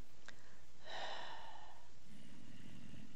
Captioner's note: breathes loudly